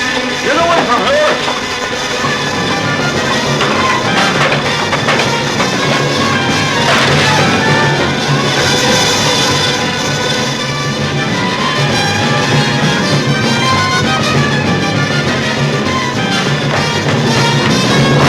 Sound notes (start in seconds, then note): 6.5 bottle breaking; 11.3 thrilling music